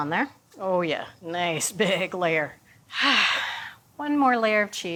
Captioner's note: sighs